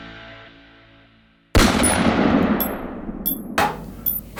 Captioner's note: bullet sound